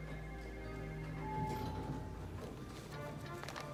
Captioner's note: bell